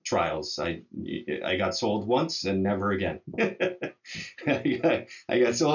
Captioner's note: laughs